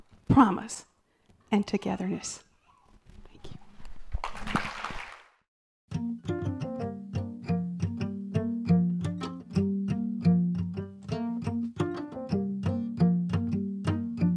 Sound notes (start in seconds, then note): 4.2 applause